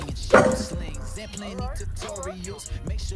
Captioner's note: loud clang